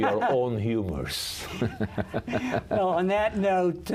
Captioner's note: laughter